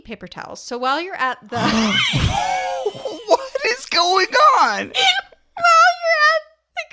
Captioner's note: both laugh